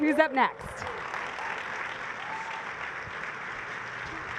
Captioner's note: applause